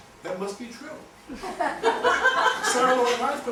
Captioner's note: laughter